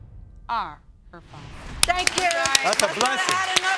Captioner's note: clapping